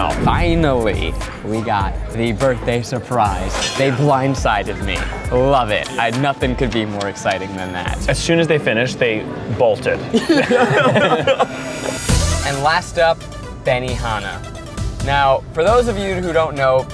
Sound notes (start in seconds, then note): 10.1 laugh